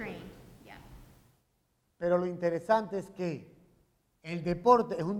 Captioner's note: speaking in Spanish